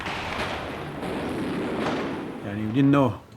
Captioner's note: gunshots continue